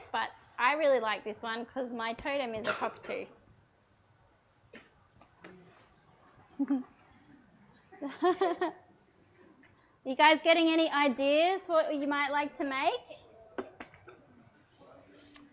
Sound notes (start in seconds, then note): 7.9 chuckles